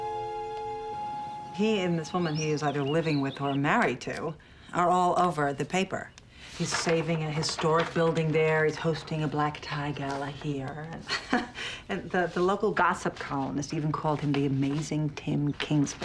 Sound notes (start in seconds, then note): 10.9 laughs